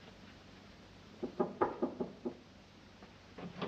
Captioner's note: knocking on door